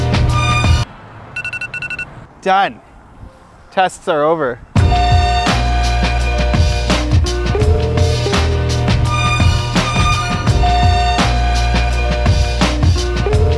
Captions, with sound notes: (cell phone alarm) Done, tests are over. (upbeat funky music)